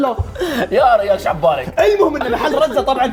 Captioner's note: in a Qatari accent